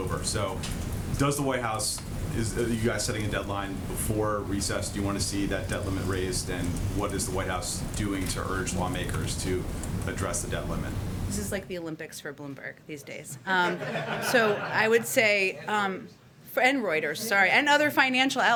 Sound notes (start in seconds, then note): 13.4 laughter